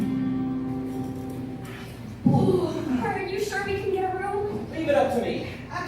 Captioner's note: strumming; shiver